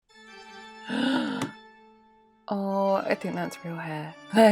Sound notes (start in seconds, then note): 0.9 gasp